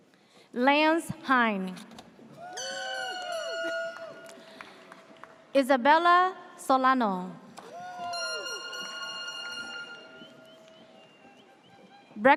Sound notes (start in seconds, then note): 2.4 audience cheers; 2.9 air horn blares; 7.6 audience cheers; 8.0 air horn blares